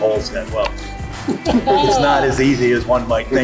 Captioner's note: group laughs